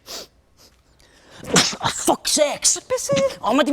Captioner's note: sniffs; sneezes